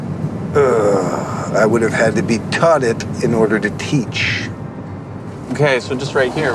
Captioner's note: groans